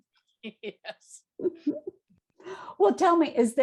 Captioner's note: laughs